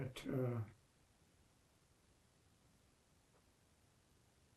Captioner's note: pauses 19 seconds